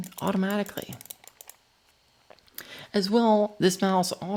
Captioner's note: mouse clicking